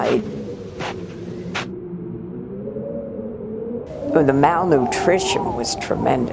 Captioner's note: crunching footsteps